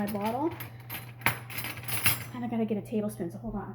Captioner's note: cutlery chinking